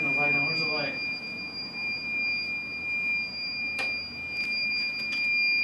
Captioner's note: beeping continues